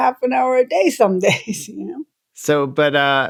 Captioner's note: laughter